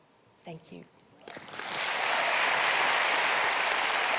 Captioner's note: applause